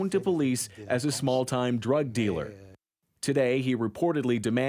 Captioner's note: speaking french